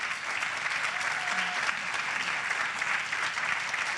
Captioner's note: applause